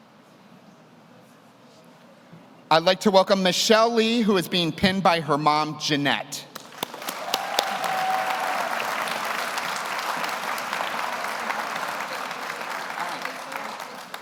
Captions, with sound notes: I'd like to welcome Michelle Lee, who is being pinned by her mom, Jeanette. (audience cheers) (audience applauds)